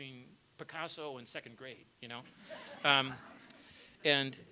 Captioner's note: laughter